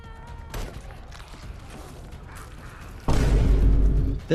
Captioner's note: gun fires